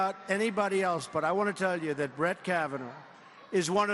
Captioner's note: cheers and applause